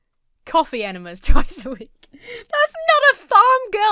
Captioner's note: laughs